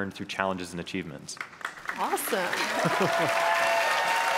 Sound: audience Applause

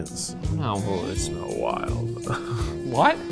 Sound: laughing

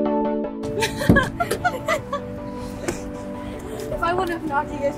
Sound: chuckles

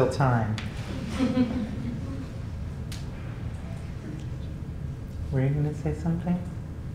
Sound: laugh

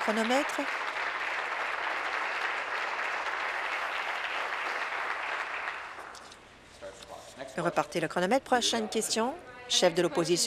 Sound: applause

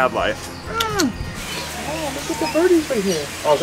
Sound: smooching

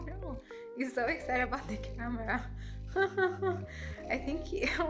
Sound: laughs

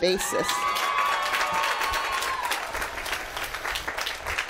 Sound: applause

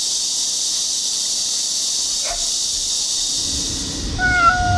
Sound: the sound of cicadas is so strong that it hurts my heart

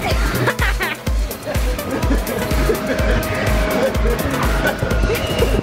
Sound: upbeat music; laughing

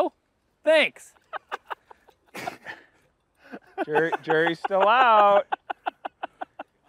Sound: laughter

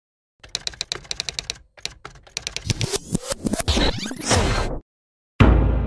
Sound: intro sound effects

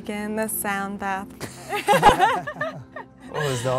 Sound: all laughing

